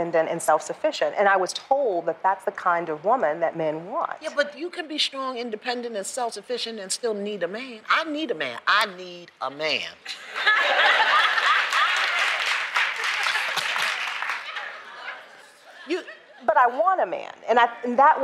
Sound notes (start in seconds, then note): 10.0 laughter; 11.2 applause